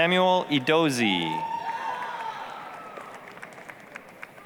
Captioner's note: applause, cheering